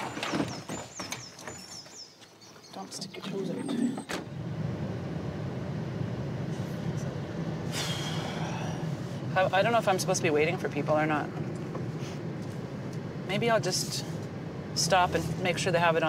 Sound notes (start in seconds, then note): 0.0 luggage thuds; 3.7 door latches shut; 5.8 car tires hum; 7.8 sighs